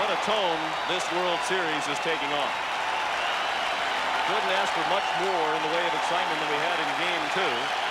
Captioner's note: applause